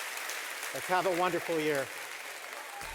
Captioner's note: clapping, music